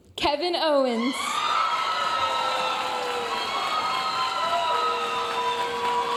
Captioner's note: audience cheering and applauding